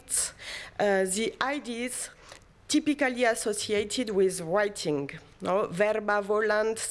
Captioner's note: non-english